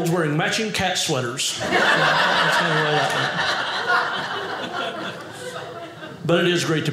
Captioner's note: audience laughing